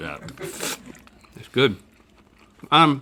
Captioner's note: slurps burger